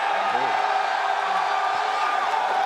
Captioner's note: crowd cheering